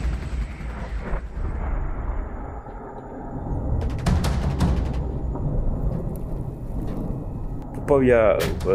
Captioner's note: sounds of shots and explosions